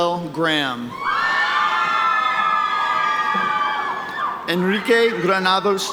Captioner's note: audience cheering